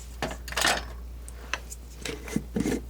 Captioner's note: scratching